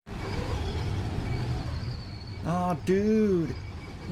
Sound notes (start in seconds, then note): 0.0 wind